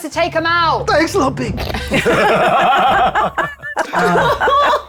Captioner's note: everyone laughing